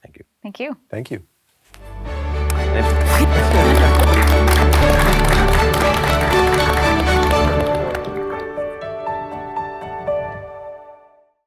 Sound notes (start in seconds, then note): 2.4 everyone applauding; 3.7 upbeat music